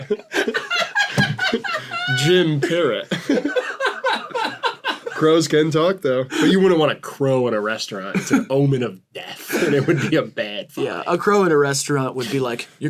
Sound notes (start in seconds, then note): 0.0 laughter